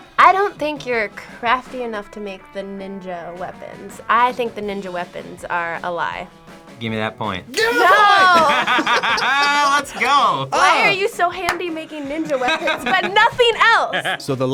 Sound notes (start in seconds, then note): 7.5 laughs